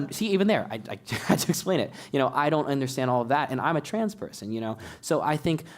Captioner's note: laugh